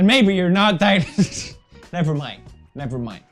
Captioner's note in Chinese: 壞笑